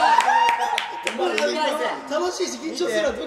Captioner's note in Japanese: 高音